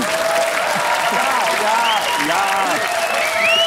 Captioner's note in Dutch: applaus